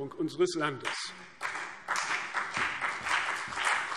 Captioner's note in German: Beifall CDU und BÜNDNIS 90/DIE GRÜNEN